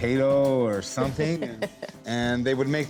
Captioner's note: laughs